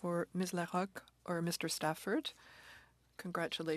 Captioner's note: speaking French